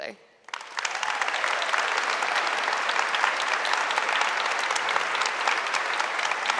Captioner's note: audience applauding; audience cheering